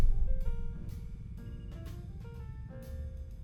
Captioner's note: system beeping